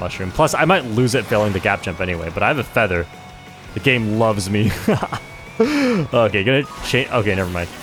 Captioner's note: laughs